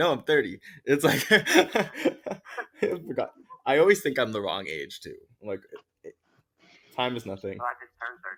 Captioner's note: laughs